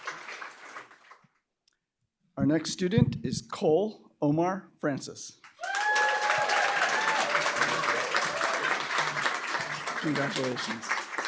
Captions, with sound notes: Our next student is Cole Omar Francis. [APPLAUSE, CHEERING] Congratulations.